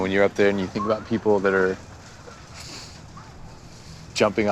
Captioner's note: sniffs